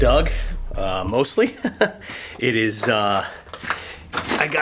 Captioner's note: laughs